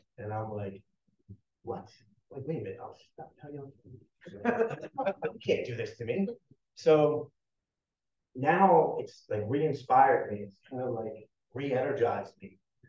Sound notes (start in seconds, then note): 4.3 everyone chuckling